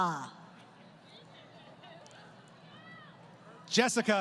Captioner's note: crowd Cheering